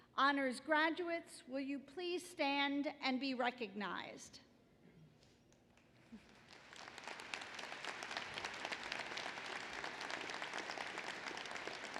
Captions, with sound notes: Honors graduates will you please stand and be recognized. [APPLAUSE]